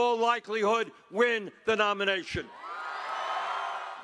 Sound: cheering and applause

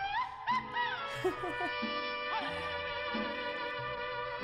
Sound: chuckles

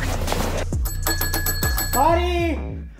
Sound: doorbell chiming

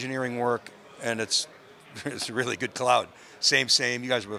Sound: chuckles

